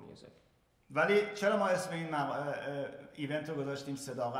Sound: speaking in farsi

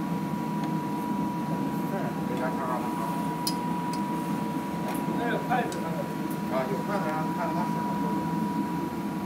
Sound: ambient kitchen fans

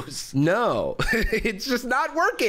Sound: laughs

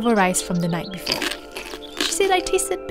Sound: chewing

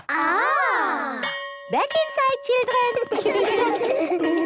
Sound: school bell

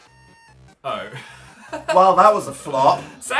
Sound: laughs

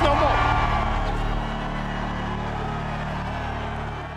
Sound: crowd continues cheering; music concludes

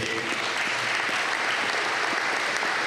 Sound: applause

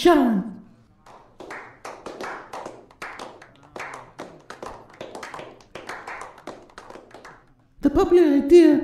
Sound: weak applause

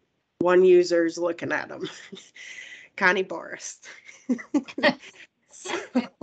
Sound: laughs

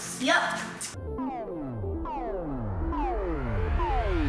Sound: zapping

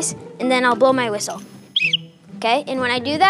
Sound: whistles blows

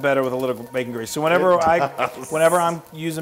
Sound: laugh

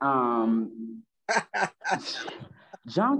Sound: laughing

